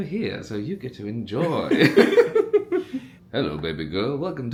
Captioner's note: both laugh